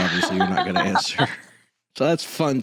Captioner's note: laughs